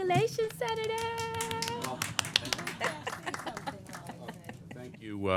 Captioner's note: applause